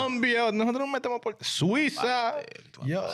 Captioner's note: speaking In Foreign Language